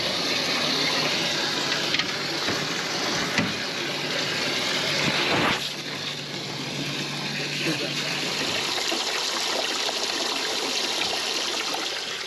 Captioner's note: boat enging idling; water running